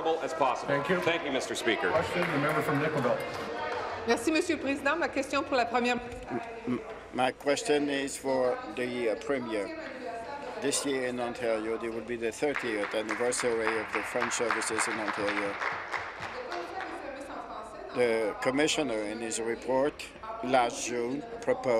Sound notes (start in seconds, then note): 7.3 speaking in french